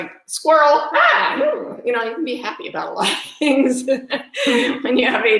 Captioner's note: laughs